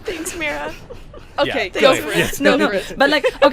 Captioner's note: laughter